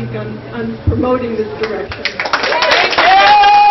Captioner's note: cheers, applause